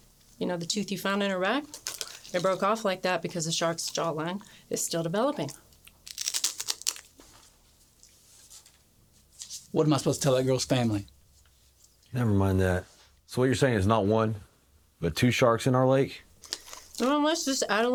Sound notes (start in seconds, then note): 5.7 crunching